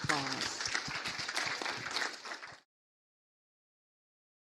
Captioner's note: audience applauds